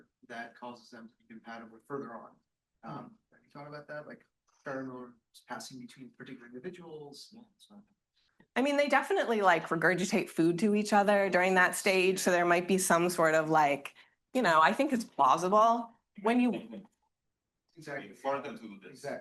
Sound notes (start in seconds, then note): 4.7 faintly speaking